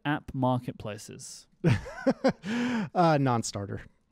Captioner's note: laughs